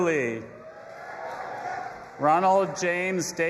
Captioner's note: audience applauding and cheering